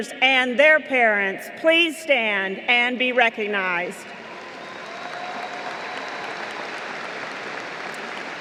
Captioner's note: applause